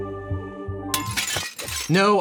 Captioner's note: relaxing music; smashing glass